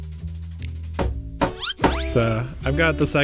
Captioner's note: hammer hitting nail; slide whistle